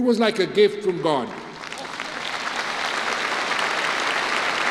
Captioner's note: applause